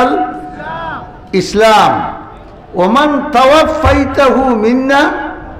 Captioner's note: Arabic